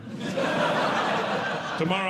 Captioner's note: audience Laughing